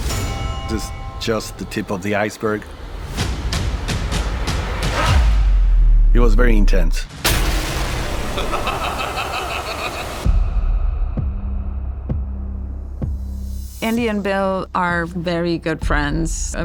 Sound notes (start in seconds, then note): 2.9 music builds; 8.2 menacing laughter; 10.0 tense music playing